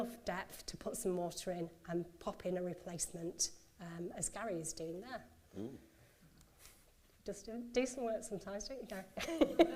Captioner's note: laughs